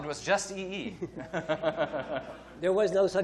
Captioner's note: laughter